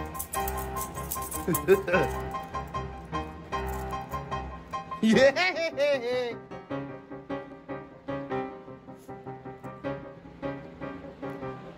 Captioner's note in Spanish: Ella se ríe